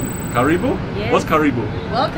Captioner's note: speaks in foreign language